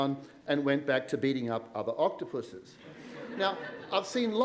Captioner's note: laughter